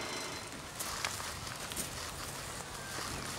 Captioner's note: munching loudly